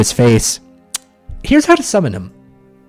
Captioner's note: lip smack